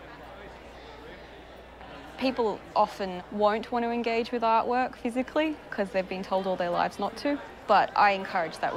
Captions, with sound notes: (People chattering) People often won't wanna engage with artwork physically 'cause they've been told all their lives not to.